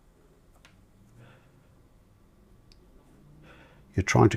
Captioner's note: silence